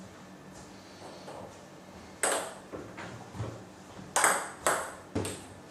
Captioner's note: balls ping pong hitting continues